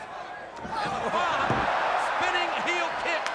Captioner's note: crowd cheering